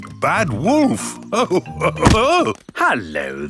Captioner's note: chuckles